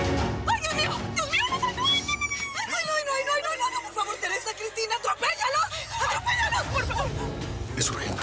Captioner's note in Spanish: Exclamaciones de pánico